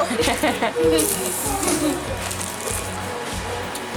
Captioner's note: laughs